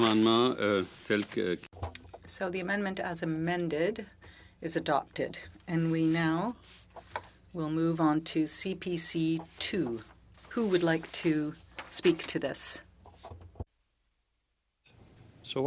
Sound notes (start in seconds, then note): 3.3 speaking French